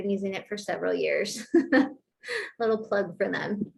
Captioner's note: laughter